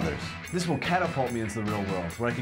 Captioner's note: none